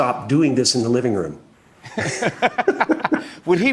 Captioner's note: both laugh